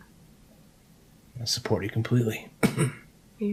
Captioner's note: coughing